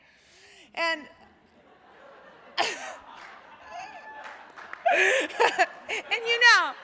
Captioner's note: applause